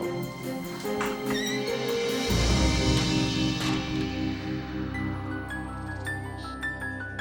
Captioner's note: suspenseful music continues; door creaks; gentle music